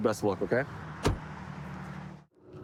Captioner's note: door bangs